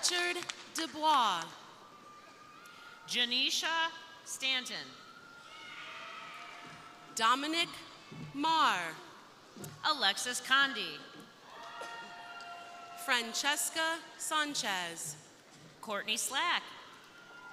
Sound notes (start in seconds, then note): 2.2 crowd applauding; 5.0 crowd cheering; 11.4 crowd cheering; 16.8 crowd cheering